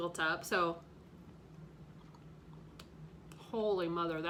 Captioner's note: chewing